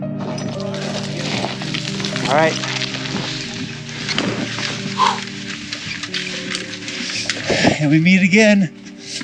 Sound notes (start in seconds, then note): 0.2 shale tumbling and metal hooks jangling; 4.8 man breathing heavily